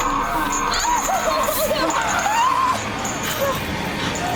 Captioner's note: gasping